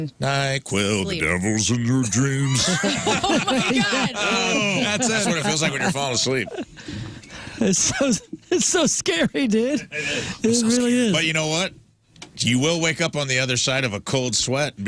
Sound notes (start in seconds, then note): 2.4 laughing